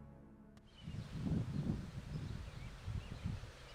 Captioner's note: birds chirping